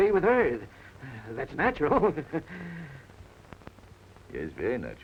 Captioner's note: chuckles